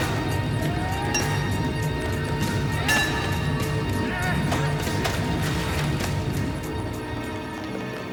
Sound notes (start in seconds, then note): 2.8 pipe clinks; 3.0 grunts